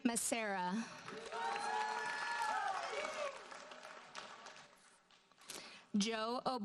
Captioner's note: audience cheers and applauds